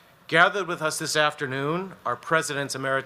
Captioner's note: none